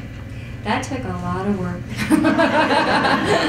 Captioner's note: chuckles